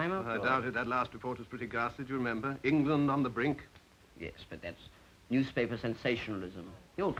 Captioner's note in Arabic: none